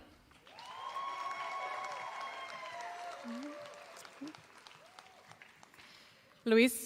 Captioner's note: applause